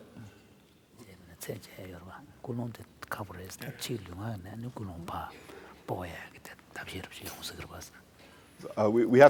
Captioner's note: foreign Language